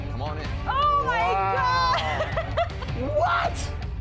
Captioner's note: laughs